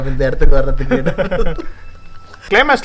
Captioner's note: indistinct laughter